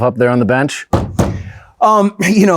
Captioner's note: bangs desk